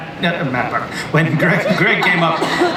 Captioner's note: audience and panelists laugh